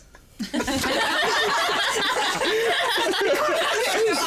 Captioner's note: laughter